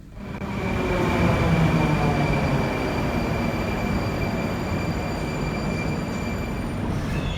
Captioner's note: arrival of train at the station